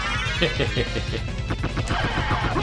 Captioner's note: rascal laugh